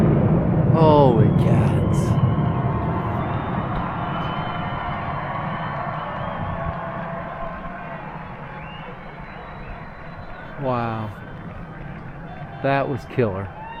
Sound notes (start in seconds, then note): 1.9 cheering from across the river